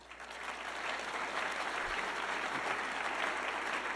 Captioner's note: audience clapping